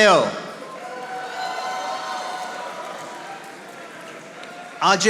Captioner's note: audience applauding